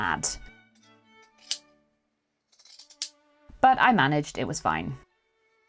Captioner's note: scissors snipping